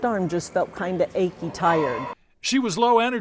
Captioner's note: equipment clanking distantly